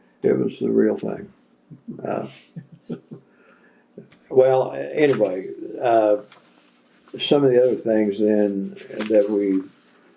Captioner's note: laughter